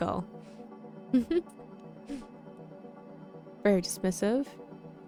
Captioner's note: chuckles